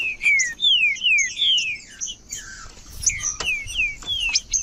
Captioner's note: trinca ferro cantando